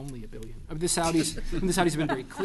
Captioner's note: laughter